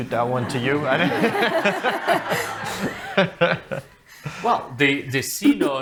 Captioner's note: people laughing